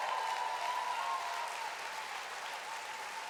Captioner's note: applause